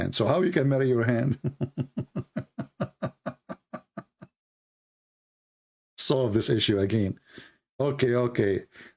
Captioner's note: Ketawa